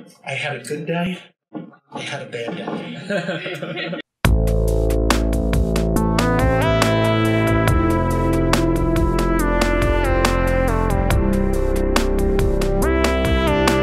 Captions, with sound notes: I had a good day. I had a bad day. (people laughing) (hypnotic music)